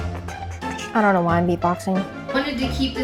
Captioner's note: beat boxing sounds